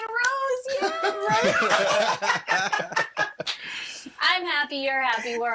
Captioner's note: all laughing